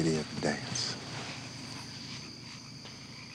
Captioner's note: insects chirping; frogs croaking